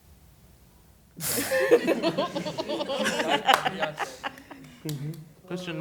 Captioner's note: laughter